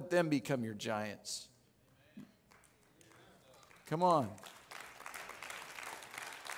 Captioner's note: audience clapping